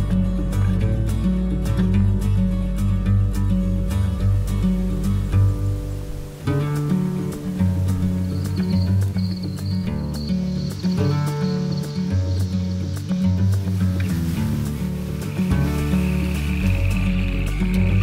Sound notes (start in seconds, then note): 0.3 gentle wind; 6.6 plants rustling in the wind; 8.6 crickets chirping; 9.1 distant water moving; 11.2 wind rustling; 13.8 frogs croaking; 16.0 water splashing; 17.8 water moving